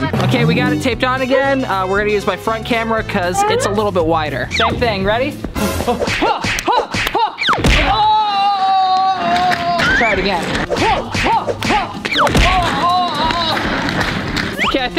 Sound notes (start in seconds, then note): 6.0 fighting sound; 8.0 groans; 11.0 fighting sound; 12.4 groans